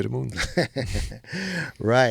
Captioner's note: laughing